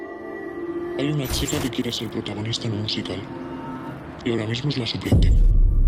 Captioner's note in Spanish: voz distorsionada